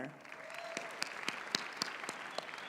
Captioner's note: applause